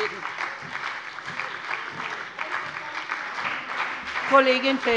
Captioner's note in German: Beifall bei der : Sie träumen doch den ganzen Tag!